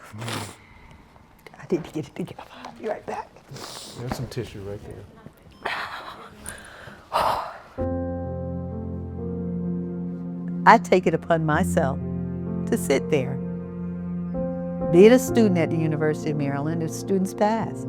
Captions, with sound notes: I need to get it together. I’ll be right right back. There's some tissue right there. [deep sighs] I take it upon myself to sit there. Being a student at the University of Maryland as students pass.